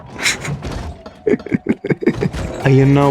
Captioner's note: laughs to myself